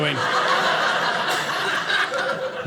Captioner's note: audience laughing